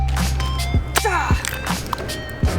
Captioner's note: grunting